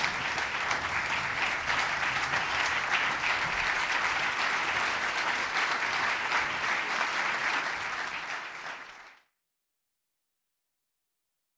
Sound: applause; cheering; applause

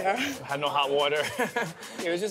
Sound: laughs

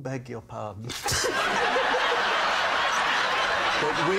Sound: laughter

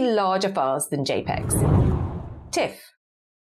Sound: screen whooshes

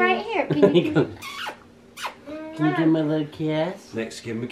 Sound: kisses

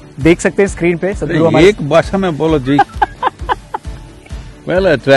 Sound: laughs

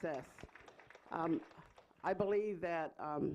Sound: clapping

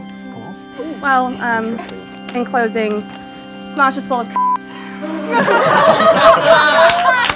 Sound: beeping; clapping

